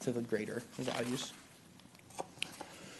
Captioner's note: rustling of papers